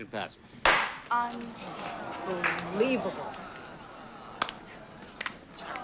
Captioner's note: gavel bangs; crowd grumbling; claps